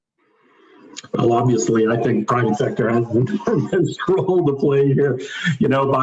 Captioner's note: laughing